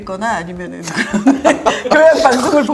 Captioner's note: hahahahahaha